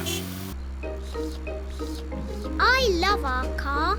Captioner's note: slurping